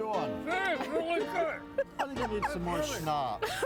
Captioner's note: laughing